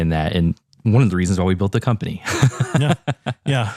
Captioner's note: laugh